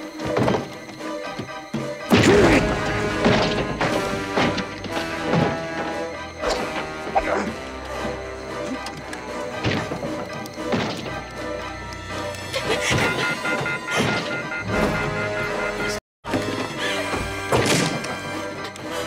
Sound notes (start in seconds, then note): 2.2 grunting; 9.5 banging; 12.7 beeping; 17.4 banging